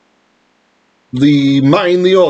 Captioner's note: Hebrew